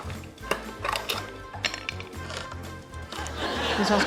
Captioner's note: clang! clang!; can opener grinds